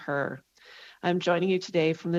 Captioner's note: speaking French